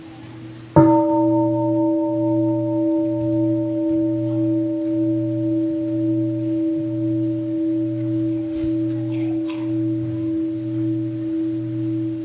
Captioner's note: gong